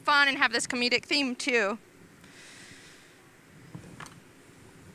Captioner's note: pause